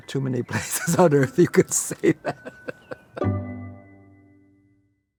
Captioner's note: laughs